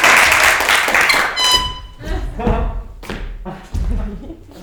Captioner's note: crowd applauding; horn tooting